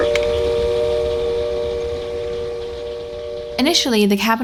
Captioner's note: train whistle